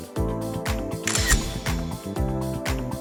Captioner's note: upbeat music; camera clicks; upbeat music